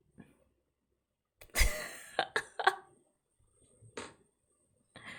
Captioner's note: laughs